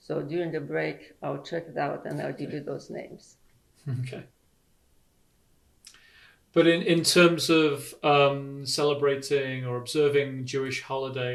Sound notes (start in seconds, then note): 3.9 laughs